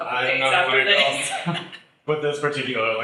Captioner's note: chuckles; laughs